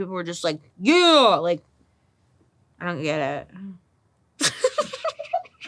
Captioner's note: laughs